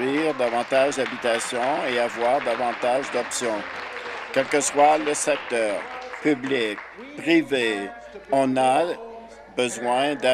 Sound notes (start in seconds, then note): 2.8 applause